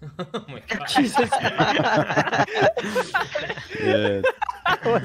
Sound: shared laughter

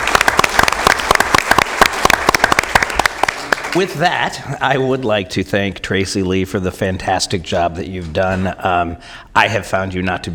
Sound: applause

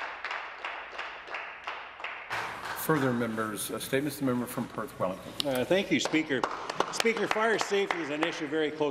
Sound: applause

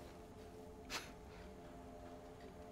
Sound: scoffs

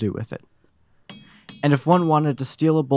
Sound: ringing noises

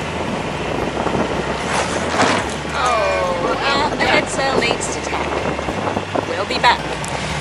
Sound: sound of sail backing on itself

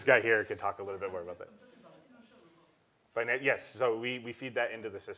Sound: laugh

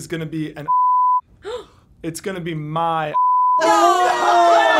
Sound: gasps

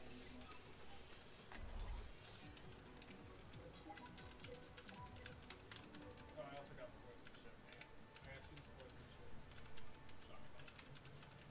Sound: slow typing

